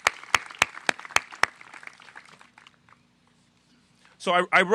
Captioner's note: applause